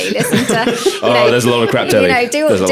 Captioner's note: laughing